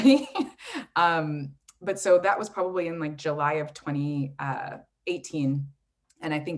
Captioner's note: laughs